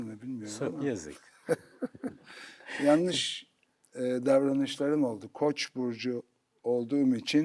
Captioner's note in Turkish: kahkaha